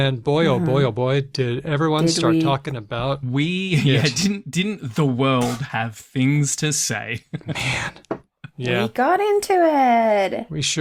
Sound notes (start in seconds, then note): 7.1 laughs